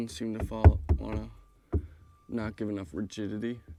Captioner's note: knuckles rapping